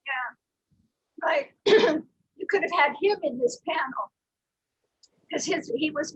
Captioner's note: clears throat